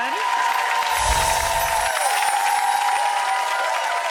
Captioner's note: applause